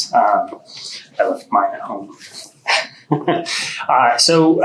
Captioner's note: chuckling